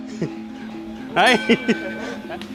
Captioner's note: bell rings